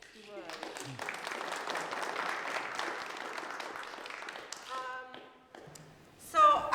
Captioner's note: applause